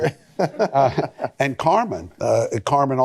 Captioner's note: laughter